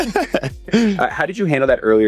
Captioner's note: laughing